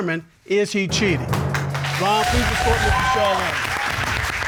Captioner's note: all applauding